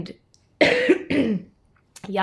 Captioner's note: coughs